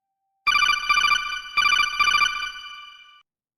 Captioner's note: call trilling